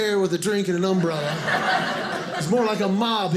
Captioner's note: audience laughing